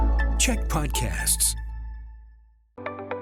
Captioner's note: announcer voice